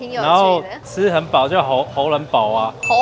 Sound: Cantonese

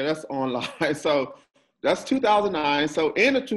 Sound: chuckles

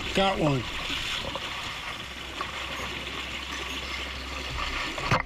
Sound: water rushing

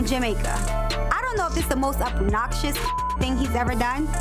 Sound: beep

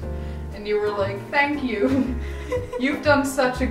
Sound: laughing

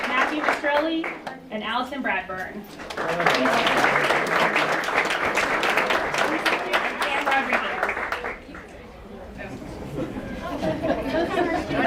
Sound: applause

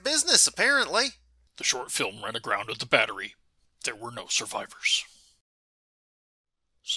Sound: grimly

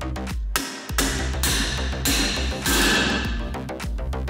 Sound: metal striking metal

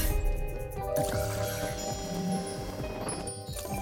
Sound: soft chiming

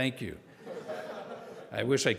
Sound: audience laughing

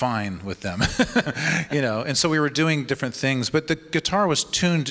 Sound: laughs

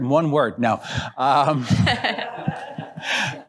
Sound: laughter

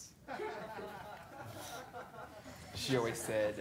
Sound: laughter

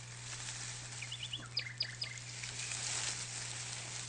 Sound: bird tweeting

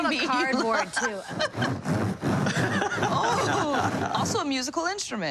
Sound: laughter

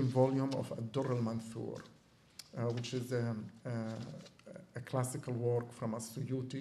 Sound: non-english

